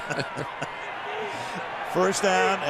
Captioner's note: laughter